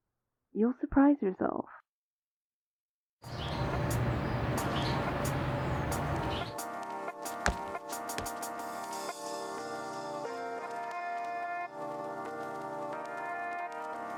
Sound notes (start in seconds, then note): 3.2 birds chirping; 7.2 footsteps; 8.3 light transition music